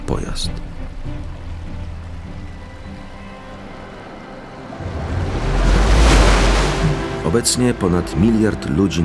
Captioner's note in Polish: odgłos fali